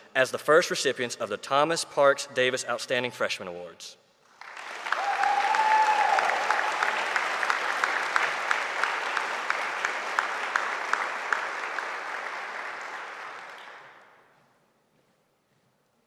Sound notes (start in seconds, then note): 4.3 audience applauding; 4.5 audience cheering